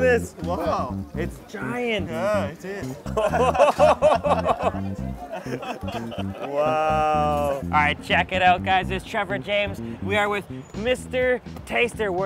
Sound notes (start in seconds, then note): 0.0 speaking foreign language; 2.9 laughing